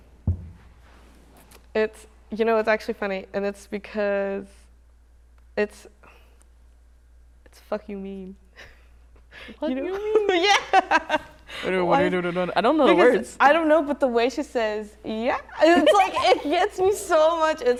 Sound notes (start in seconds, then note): 10.8 laughs; 11.4 mumbles